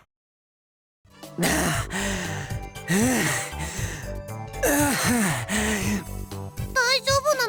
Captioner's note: exertion pants